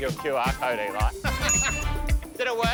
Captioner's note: laughing